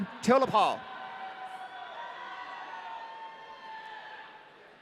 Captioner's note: audience cheering